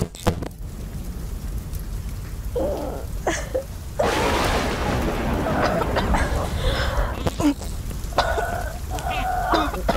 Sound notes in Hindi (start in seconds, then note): 0.8 आग जलने की आवाज; 0.8 भारी बारिश; 5.7 स्नेहा खांसते हुए